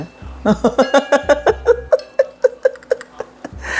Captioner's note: laughs